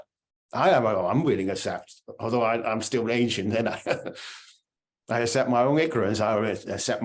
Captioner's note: laughing